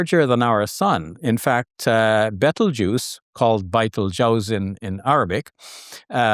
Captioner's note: speaks Arabic